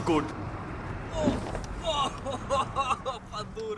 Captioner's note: slams into doors